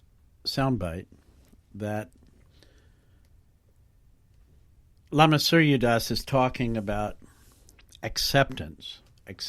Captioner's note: pause